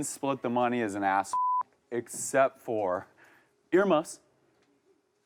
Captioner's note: beep